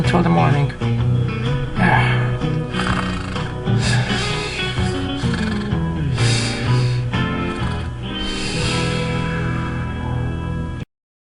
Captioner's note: Mater snoring